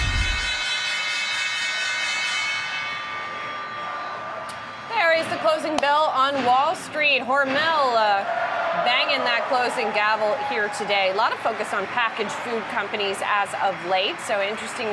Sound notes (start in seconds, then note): 0.1 bell ringing